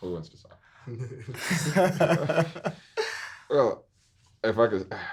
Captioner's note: everyone laughing